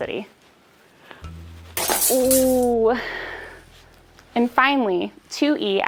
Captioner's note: glass breaks